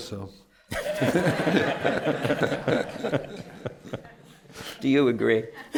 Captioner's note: laughter